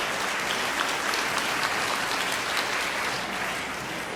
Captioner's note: audience applauds